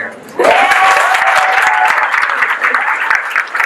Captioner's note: guests cheer